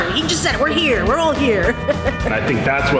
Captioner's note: laughs